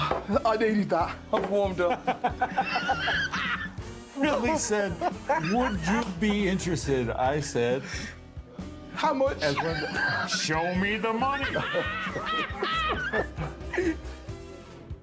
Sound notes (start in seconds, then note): 2.4 laughing; 11.2 laughing